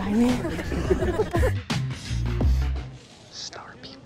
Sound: laughter

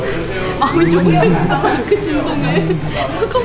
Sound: non-stop vibration

